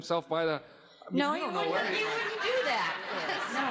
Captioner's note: audience laughing